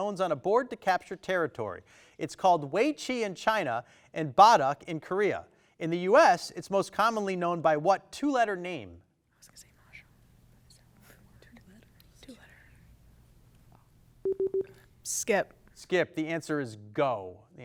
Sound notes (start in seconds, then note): 10.3 faintly speaking